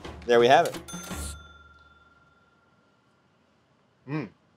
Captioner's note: cash register dings